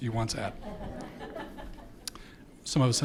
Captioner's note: audience laughing